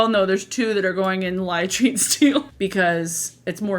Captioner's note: laughs